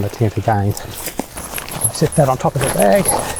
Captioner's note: material rustling